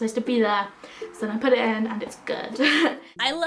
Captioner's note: laughs